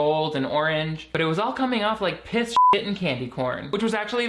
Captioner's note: beeps